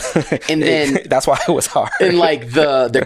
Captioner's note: laughs